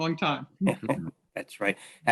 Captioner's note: participants chuckles